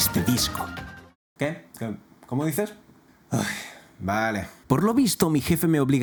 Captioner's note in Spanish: suspira